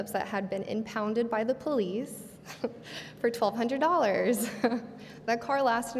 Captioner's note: laughs